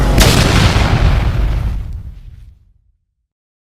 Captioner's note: explosion